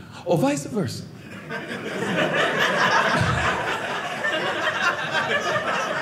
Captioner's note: audience laughing